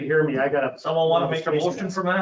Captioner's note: laughs